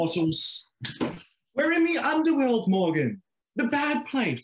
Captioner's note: snaps fingers